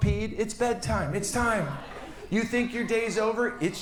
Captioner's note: audience laughs